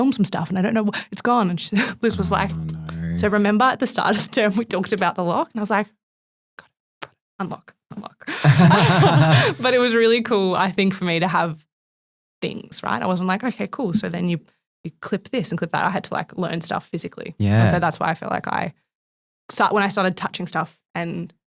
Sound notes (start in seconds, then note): 8.3 group laughing